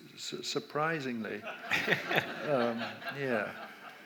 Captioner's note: audience laughs